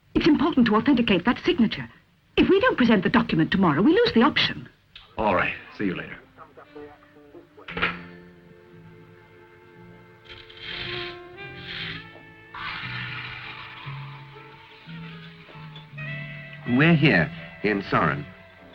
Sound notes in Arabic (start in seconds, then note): 7.8 ضجيج الهاتف; 10.3 موسيقى الآلات الرومانسية